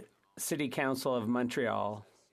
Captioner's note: speaking French